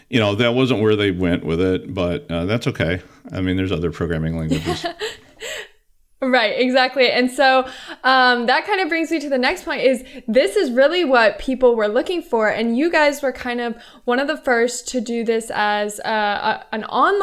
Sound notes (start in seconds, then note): 4.4 chuckle